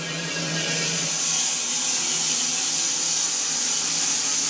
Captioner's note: saw buzzes